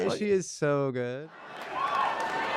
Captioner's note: crowd cheers